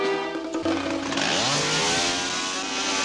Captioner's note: electric saw whirring